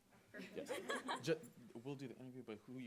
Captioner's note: audience laughing